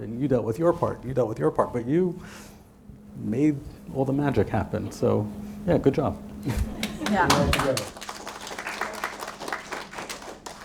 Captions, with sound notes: and you dealt with your part, and you dealt with your part, but you made all the magic happen. So, yeah, good job. (audience applauding)